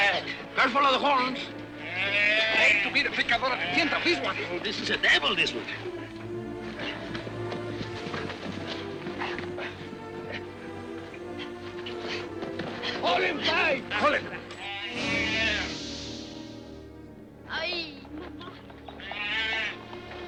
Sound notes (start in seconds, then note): 14.8 Gitano cries out